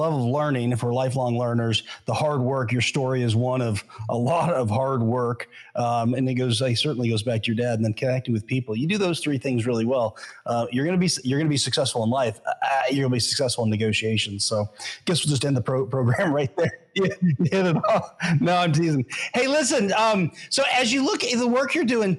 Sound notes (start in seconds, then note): 16.0 laughs